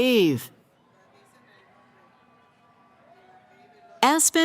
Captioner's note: cheering